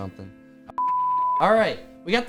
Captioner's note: audio beep